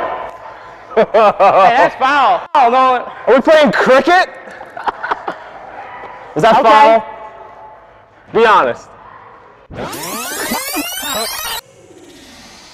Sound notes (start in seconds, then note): 0.8 chuckles; 4.4 laughing; 9.7 tape rewinding